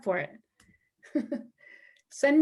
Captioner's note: laughter